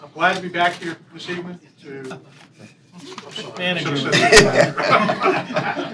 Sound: laughter

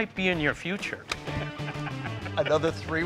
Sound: both laughing

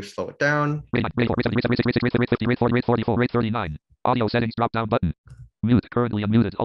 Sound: speaking extremely quickly

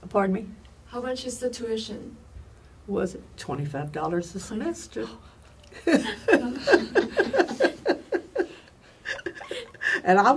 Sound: all laugh

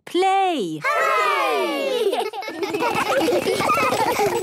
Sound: laughter

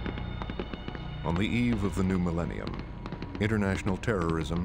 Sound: voiceover

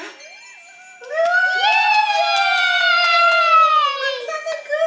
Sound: everyone cheers

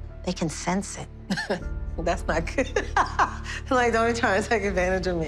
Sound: laughing

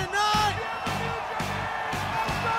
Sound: cheering

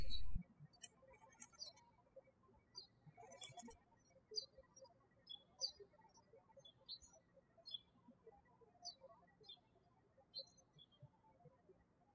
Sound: birds chirping

